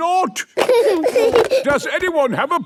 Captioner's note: giggling